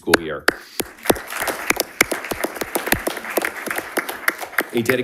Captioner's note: audience applauding